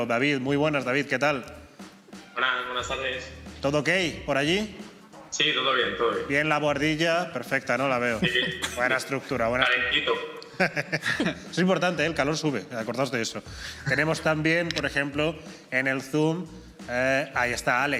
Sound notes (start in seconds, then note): 10.4 laughs